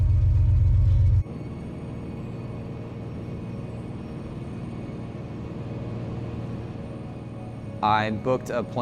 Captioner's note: sound of airplane